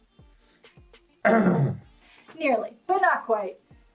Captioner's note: clears throat